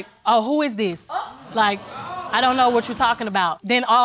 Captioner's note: audience gasps